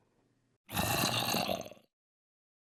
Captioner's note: zombie growls in appreciation